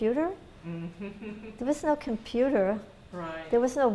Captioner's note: laughter